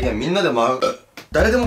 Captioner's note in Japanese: シルクのゲップ